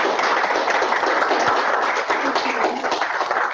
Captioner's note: applause